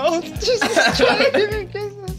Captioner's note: laughing